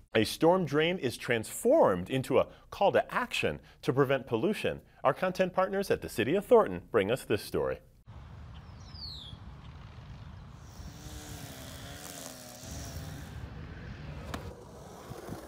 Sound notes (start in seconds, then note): 10.4 buzz of weed whacker